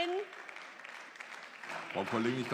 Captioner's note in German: Beifall